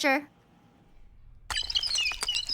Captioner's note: squeaking roller